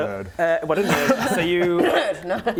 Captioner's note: cough